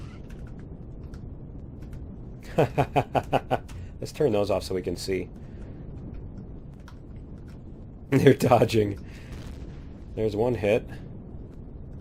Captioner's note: laughs